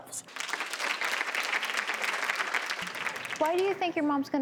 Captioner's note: audience applauds